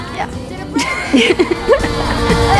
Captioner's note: laughing